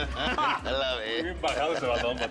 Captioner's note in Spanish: Risas